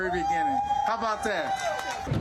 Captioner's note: crowd cheering